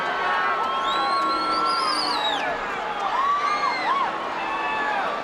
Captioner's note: crowd member whistles